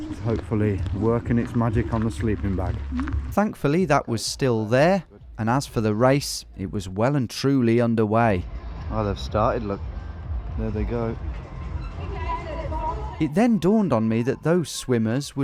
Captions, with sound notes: Which is hopefully, working its magic on the sleeping bag. Thankfully that was still there and as for the race, it was well and truly underway. Oh, they've started, look there they go. (upbeat music) (announcer speaks in foreign language) - It then dawned on me that those swimmers